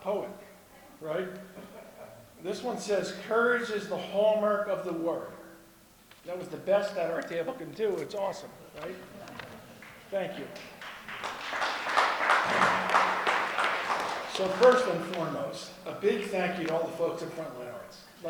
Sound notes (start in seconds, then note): 10.4 applause